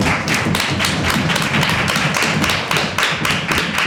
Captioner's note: applause